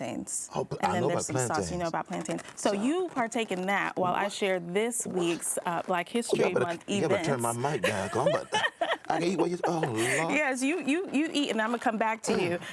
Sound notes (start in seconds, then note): 10.0 laughing